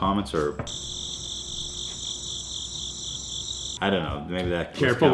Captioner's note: crickets